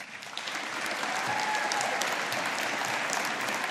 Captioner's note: audience applauding